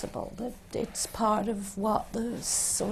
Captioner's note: none